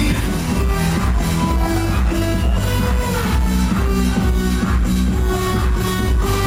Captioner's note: lively music; cheering